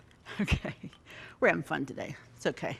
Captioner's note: chuckling